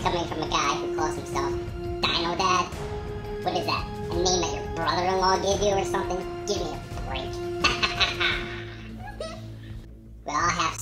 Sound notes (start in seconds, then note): 7.6 evil laugh; 9.1 laughs